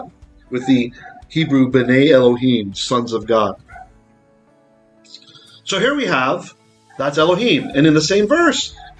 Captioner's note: Hebrew